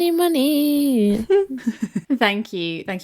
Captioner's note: laughing